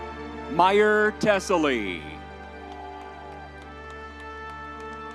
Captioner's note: crowd cheering